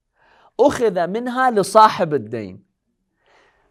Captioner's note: Arabic